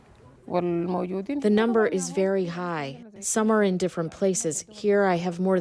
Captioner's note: through translator